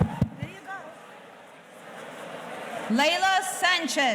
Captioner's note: tapping on mic